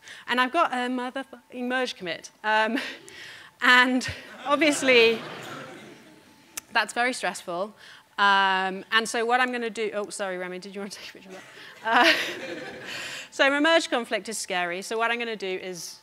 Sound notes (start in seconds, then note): 4.1 audience laughing